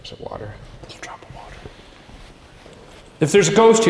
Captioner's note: whispers